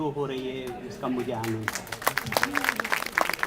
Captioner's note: clapping